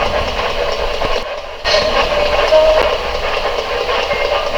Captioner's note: radio voice